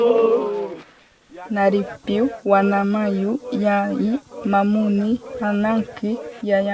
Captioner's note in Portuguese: Mulher falando Manoki